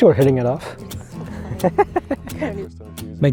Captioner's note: laughs